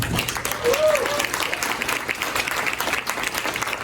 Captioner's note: audience applauding